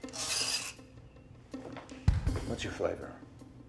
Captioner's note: chalk shouts